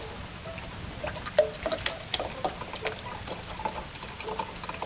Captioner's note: clumpy milk pouring